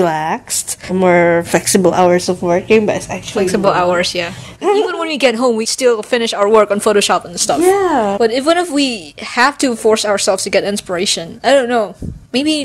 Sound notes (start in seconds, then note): 4.5 laughs